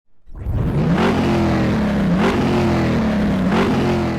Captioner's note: engine revving